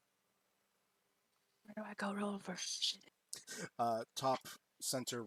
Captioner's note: whispering